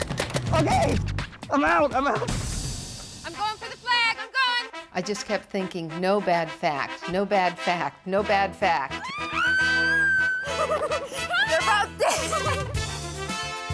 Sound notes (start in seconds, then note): 9.0 women screaming; 10.4 triumphant music